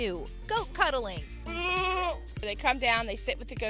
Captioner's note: goat bleats